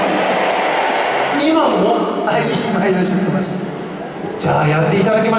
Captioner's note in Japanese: ざわざわ